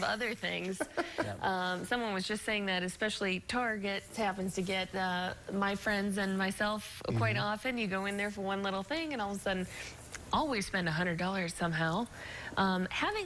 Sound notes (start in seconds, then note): 0.7 laughter